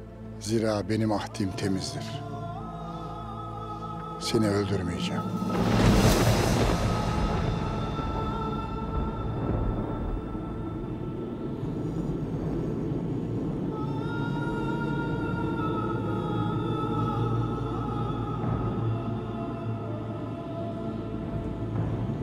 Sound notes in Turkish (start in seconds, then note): 5.3 Gök gürültüsü efekti